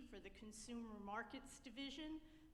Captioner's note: none